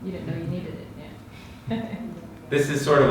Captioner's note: laughing